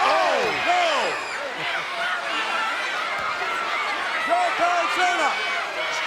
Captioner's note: audience cheers